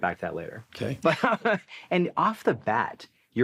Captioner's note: laughs